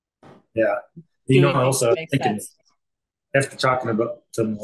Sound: chattering

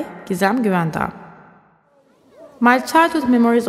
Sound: hammam ambience with reverb throughout

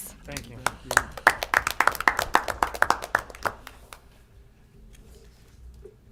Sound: applause

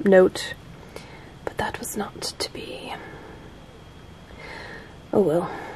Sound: whispers

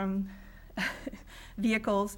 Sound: laughs

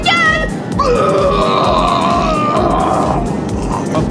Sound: airplane puke

